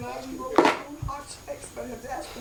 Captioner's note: TV blaring